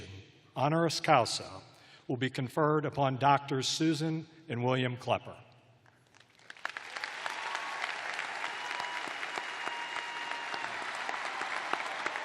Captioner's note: cheers and applause